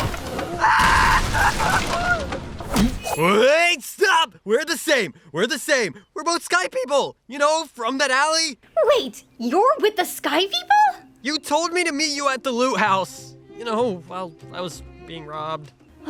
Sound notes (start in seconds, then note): 0.6 Violent Subaru Scream